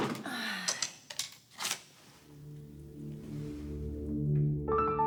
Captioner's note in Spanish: ruidos al buscar en el cajón